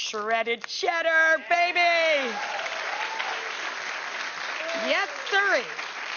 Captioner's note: audience cheers